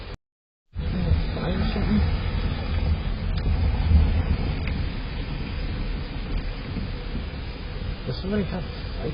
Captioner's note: indistinct chatter